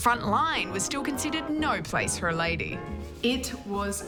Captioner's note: none